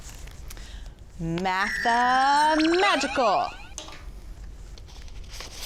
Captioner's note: magical chime